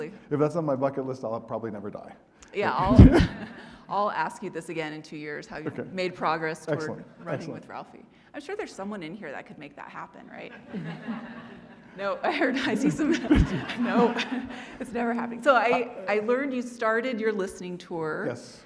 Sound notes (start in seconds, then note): 2.7 audience laughing; 10.5 audience laughing